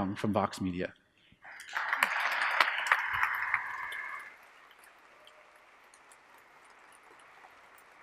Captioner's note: applause